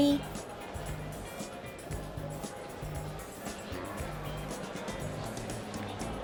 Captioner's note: museum patrons chattering continues